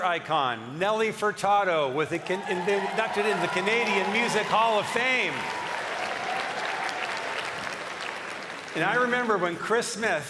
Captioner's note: cheering and applause